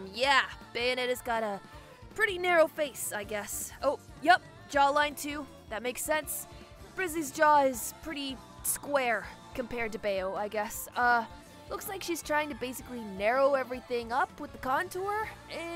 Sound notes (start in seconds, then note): none